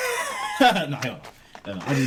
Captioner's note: laughing